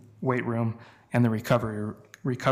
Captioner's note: none